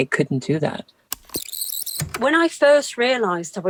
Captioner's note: the tape whirrs fast forwarding and then plays